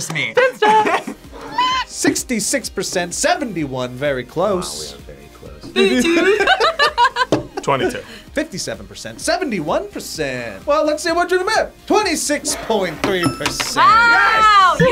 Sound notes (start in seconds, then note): 0.3 both laugh; 5.7 laughs